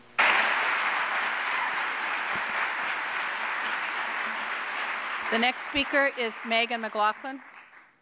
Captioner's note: applause